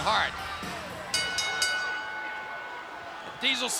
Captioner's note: bell dinging